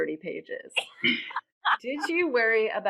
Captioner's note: laughing